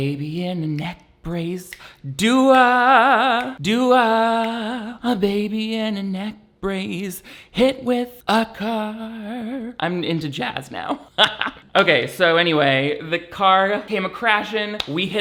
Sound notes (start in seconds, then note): 2.0 humming; 11.0 laughs